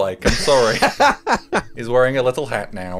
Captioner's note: laughing